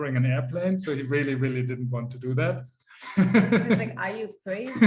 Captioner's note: laughs